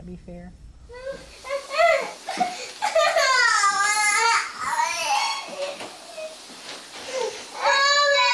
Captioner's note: whies and begins to cry